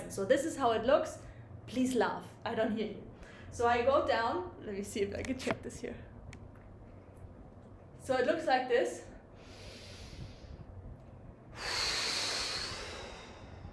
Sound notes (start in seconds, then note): 9.4 breaths heavily